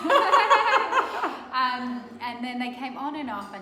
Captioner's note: laughing